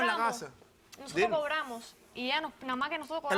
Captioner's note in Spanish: Hablan al unísono